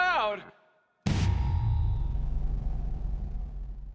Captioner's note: explosion